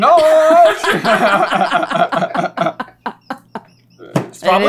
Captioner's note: laughter